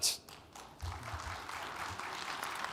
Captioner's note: audience applauds